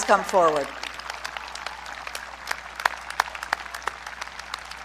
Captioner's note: audience clapping